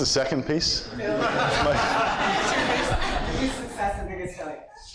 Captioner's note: audience laughs